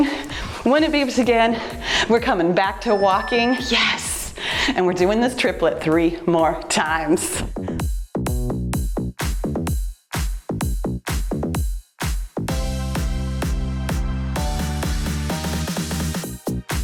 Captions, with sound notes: When it beeps again, we're coming back to walking. (timer beeps) Yes. And we're doing this triplet three more times. (cheerful music)